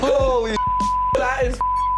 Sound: beep

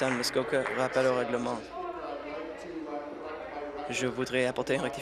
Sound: applause

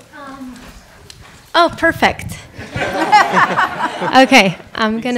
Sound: audience laughing

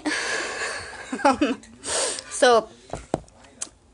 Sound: chuckles

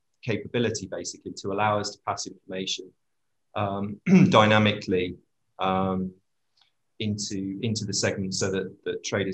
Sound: cough

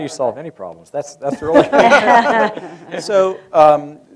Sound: laughter

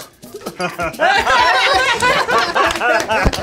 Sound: laughing

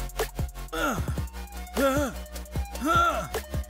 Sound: Shekhar grunts

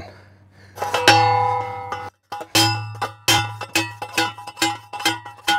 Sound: post pounder clanging

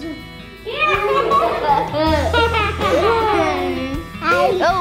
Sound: laughing

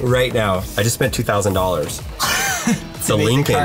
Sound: chuckles

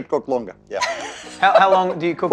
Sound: laughs

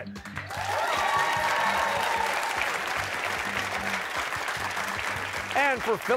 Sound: cheers and applause

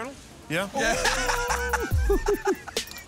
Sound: laughing

